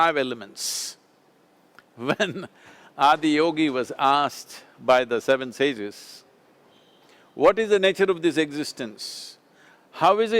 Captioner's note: laughs